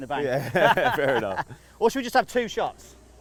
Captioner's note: laughs